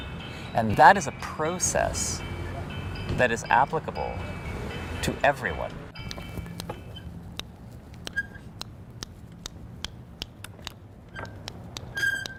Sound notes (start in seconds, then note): 8.0 clicking sounds